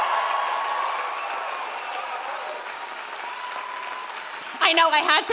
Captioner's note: audience continues cheering; audience continues applauding